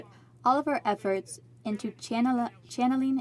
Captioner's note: speaking in french